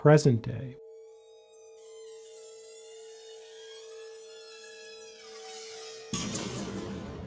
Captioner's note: door screeches; door slams